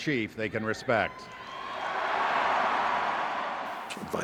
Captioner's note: cheering